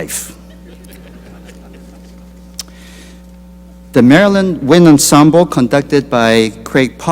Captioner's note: laughter